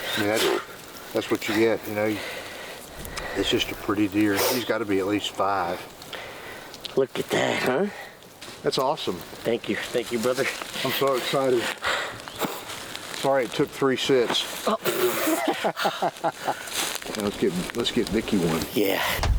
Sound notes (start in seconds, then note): 15.0 both laughing